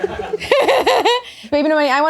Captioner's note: all laughing